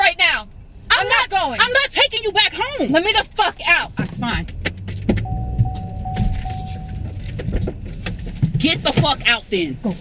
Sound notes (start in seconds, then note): 5.2 seat-belt alert dinging